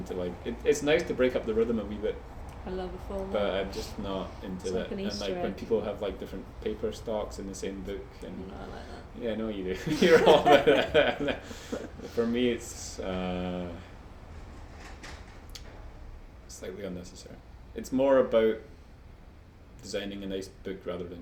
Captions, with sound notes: and having to like... it's nice to break up the rhythm a wee bit. C - I love a fold out. D - But I'm just not into that. C - It's like an easter egg. D - And like when people have like, different paper stocks in the same book... C - No I like that. D - Yeah I know you do, you're all about that! (both laugh) For me it's uh... slightly unneccesary. It's more about designing a nice book